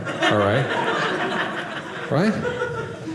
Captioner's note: audience laughing